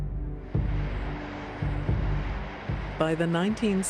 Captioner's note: waves crashing